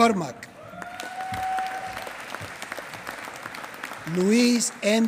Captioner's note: applause